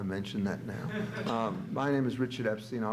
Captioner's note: audience laughs